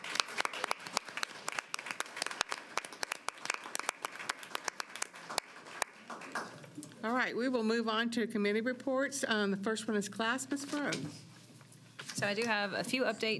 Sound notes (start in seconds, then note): 2.9 applause